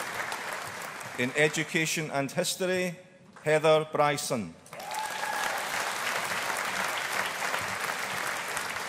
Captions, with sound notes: In Education and History, Heather Brison. (AUDIENCE APPLAUDING)